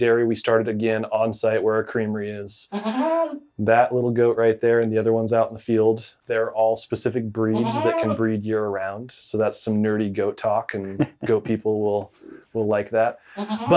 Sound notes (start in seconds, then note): 2.7 goat brays; 10.8 host laughs